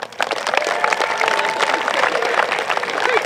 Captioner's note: applause